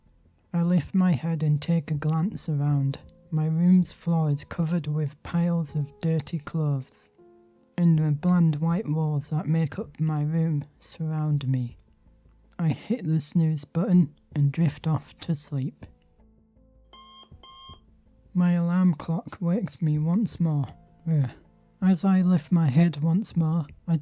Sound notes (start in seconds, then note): 16.9 beep beep